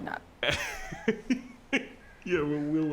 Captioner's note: Mr. Machen laughs